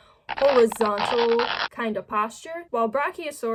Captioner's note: stretchy sound